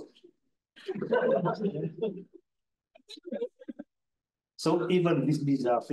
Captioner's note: audience chuckles